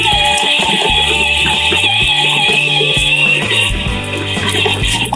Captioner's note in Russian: звук электромотоцикла